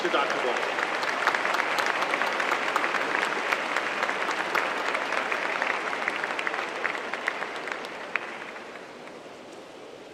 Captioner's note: applause